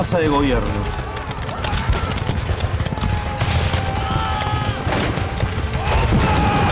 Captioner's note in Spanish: Gritos, explosiones, disparos